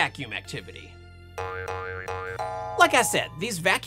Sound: spring Noises

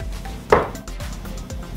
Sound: dart hitting board

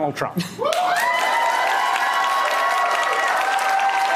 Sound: applause

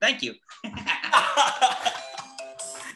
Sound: laughs

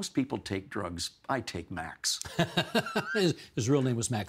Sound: laughing

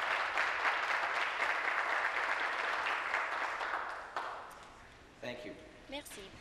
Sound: speaking Alternate Language; applause

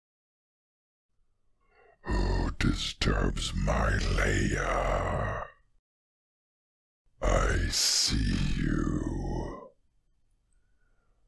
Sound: dragon voice

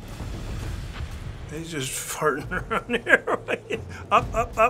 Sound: laughing

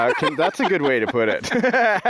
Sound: laughing

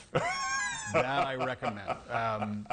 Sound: laughter

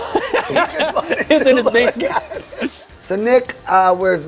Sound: both laughing

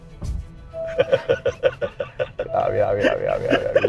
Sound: laughs

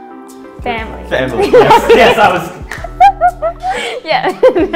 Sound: both laughing

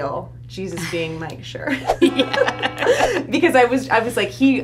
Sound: both laugh

